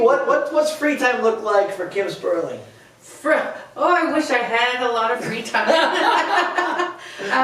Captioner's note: laughter